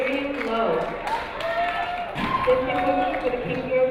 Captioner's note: crowd cheering